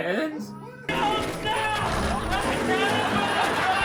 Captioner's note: screams